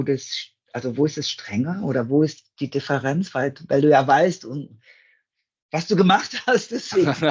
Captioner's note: laugh